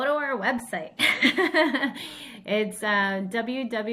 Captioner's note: laughs